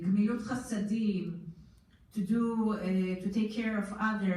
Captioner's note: foreign language